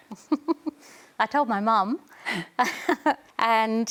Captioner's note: laughs